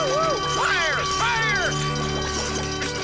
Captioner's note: bell ringing